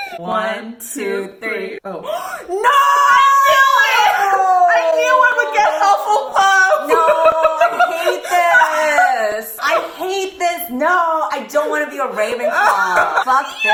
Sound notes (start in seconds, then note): 2.0 gasps; 6.2 laughing hard